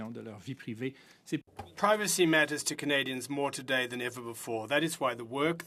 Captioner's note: speaking French